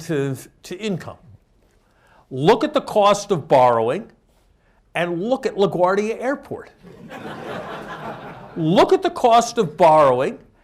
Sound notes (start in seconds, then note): 6.8 laughter